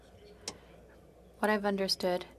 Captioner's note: speaking French